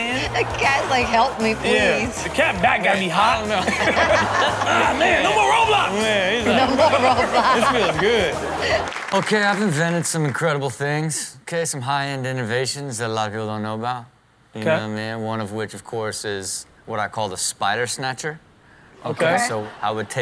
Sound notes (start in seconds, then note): 3.5 everyone laughs; 7.7 laughs